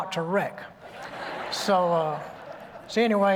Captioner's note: laughter